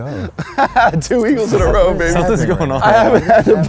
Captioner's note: laughs